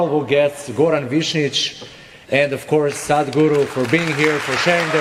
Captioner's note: cheering/Applause